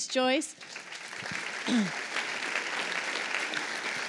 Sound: applause

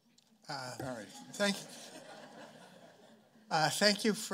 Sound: chuckling

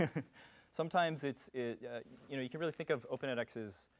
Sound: laugh

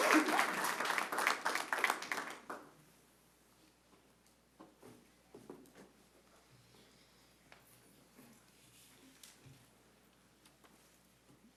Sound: applause

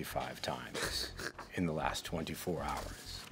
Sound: snickering

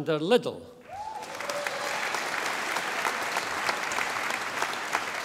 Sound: audience applauding

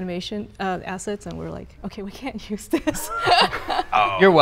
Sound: laughing

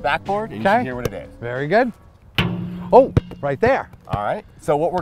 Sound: ball hits backboard

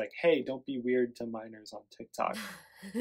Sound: laughs

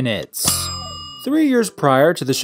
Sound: kitchen timer goes off

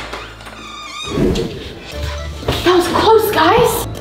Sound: squeaking

